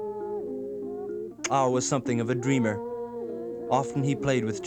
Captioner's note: non-english speech